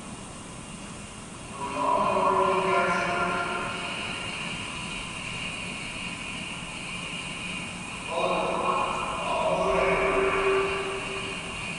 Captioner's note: train station noises